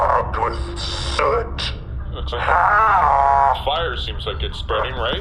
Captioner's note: makes a horrible groaning sound